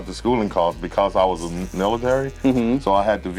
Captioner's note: buzzing